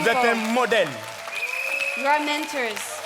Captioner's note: speaking in French